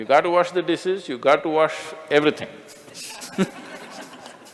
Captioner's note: Smích